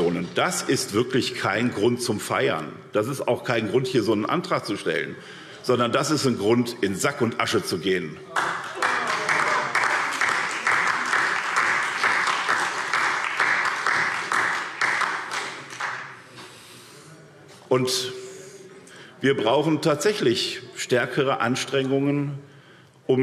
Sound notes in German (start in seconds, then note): 8.3 Beifall SPD und vereinzelt DIE LINKE